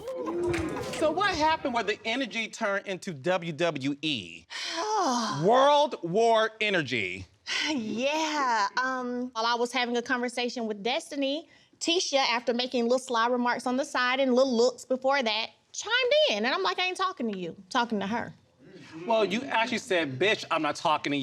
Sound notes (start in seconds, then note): 0.0 audience exclaiming; 4.6 sighs in exasperation; 6.9 sighs; 18.1 audience murmuring